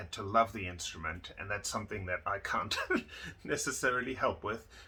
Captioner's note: laughs